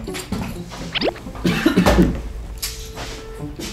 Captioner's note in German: Er hustet